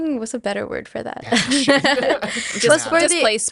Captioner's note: laughs